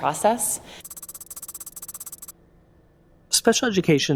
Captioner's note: keyboard tapping